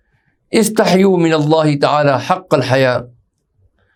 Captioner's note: Arabic